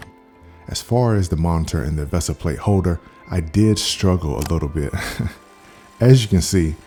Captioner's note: laugh